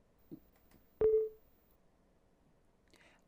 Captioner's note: windows user account control sound